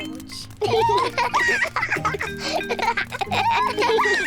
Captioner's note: both giggle